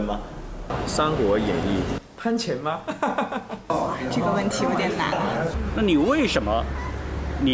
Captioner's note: participants speaking in foreign language; participant speaking in foreign language